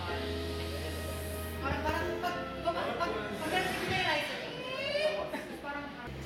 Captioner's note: imitates the rising sound